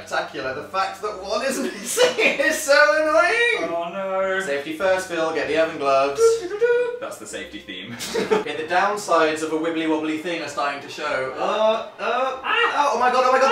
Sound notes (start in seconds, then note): 1.6 laughs; 7.9 giggles